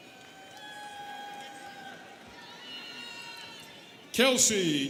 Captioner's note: students cheering